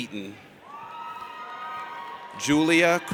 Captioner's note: audience cheers